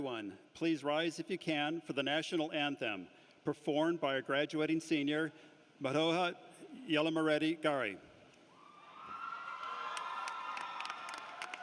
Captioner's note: applause